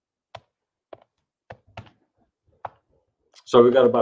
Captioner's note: keyboard clicks